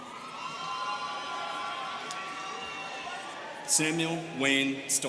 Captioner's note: students cheering